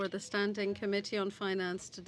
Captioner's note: speaking French